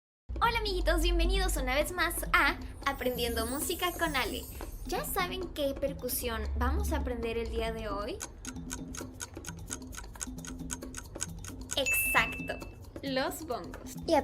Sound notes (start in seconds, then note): 8.1 timer